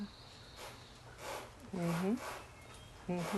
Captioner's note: laughs